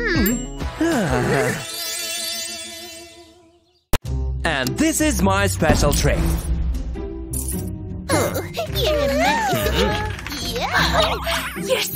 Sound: moaning

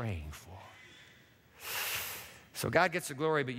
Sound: inhales sharply

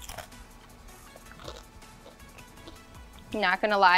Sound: bacon crunches

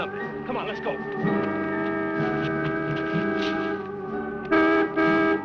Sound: car horn honking

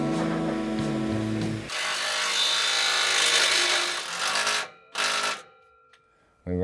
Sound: metal grinding

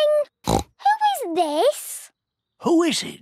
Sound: snorts

